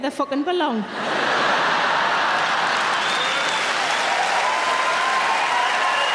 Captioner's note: audience laughing and applauding